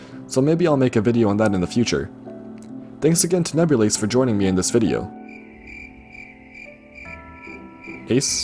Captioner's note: cricket sound fx